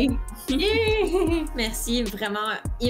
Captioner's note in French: rires